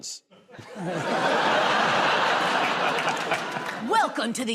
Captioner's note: laughter